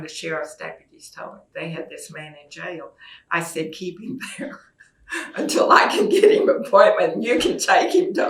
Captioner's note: laughs